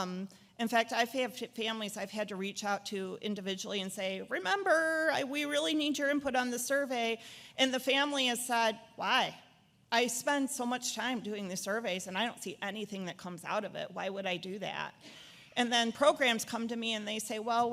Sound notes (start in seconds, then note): none